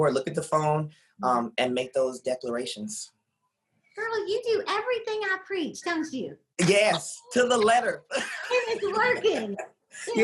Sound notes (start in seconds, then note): 6.6 laughs